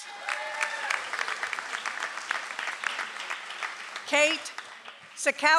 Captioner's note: audience applauds